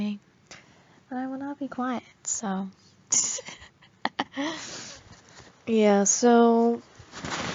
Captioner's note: pshhhehehing